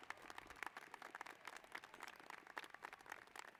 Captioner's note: cheers and applause